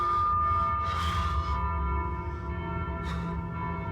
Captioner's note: breathing shakily